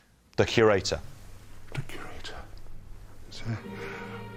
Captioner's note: whispers